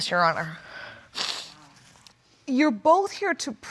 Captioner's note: sniffling